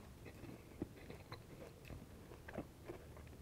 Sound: chewing

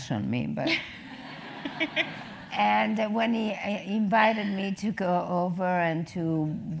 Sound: laugh

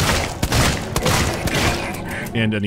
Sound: pow

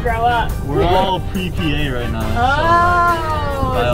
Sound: laughing

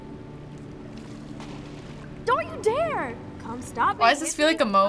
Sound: water splashes

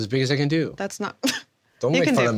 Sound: laughs

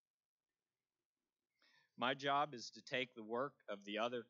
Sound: none

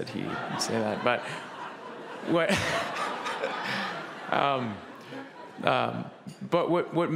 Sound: laughter

